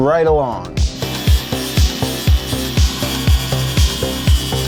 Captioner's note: grinder buzzing